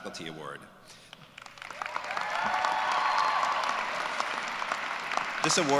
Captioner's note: cheers and applause